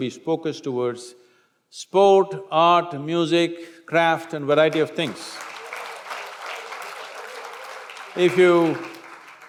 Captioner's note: applause